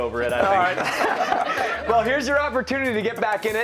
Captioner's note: laughter